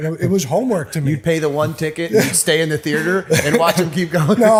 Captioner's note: chuckle